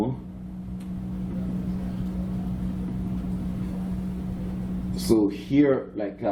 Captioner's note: background chatter